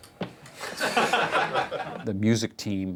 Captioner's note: all laugh